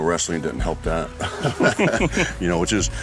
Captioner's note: laughs